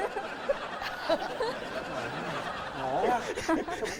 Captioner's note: laugh